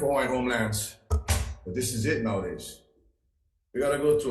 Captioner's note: paper thumps